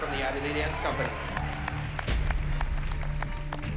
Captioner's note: cheering and applause